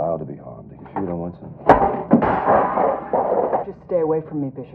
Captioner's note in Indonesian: Berdering